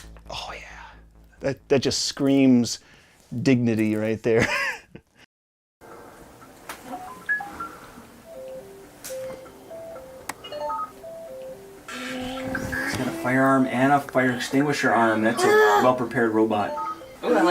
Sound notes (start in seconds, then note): 5.3 laughing; 8.3 robotic beeping